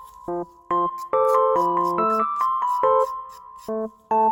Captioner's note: scribble scribble